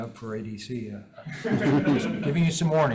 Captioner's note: all laugh